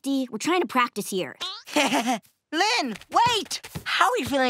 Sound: nervous chuckle

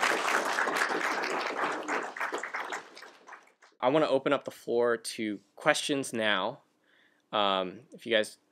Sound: applause

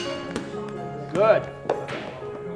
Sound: metal bat hits ball

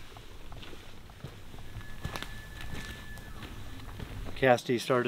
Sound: elk bugling

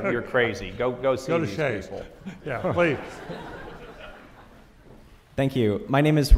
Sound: audience laughs

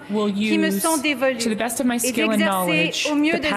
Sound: speaking french

